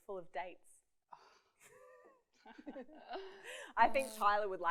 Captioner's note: laughs